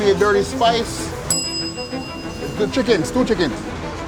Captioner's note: bell rings